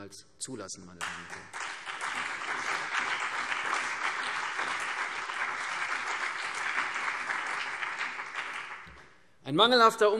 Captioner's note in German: Beifall CDU und BÜNDNIS 90/DIE GRÜNEN